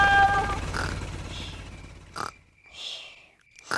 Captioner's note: baby alexander snoring